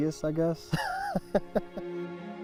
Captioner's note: laughs